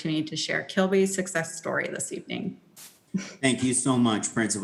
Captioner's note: laughs